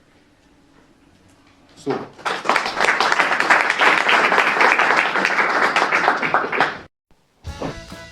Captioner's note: applause